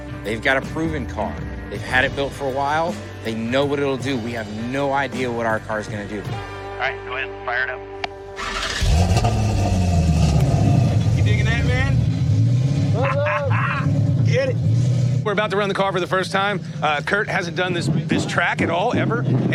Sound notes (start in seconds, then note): 8.4 engine starts; 12.9 laughs